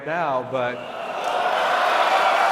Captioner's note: cheering